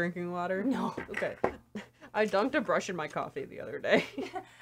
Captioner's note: both laugh